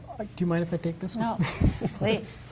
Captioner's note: laughs